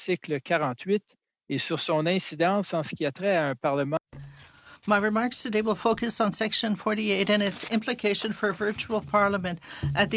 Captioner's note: speaking French